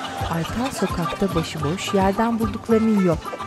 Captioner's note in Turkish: Tavuk gıdaklaması